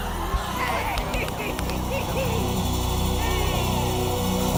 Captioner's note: laughs